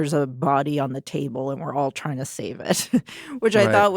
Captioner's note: chuckles